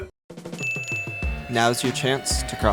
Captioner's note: ding sound effect